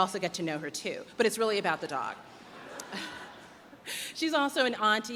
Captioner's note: chuckles